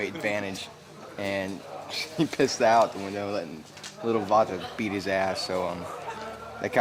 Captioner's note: chuckles